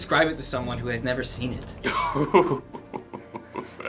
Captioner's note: chuckling